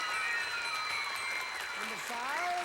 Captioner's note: audience applauding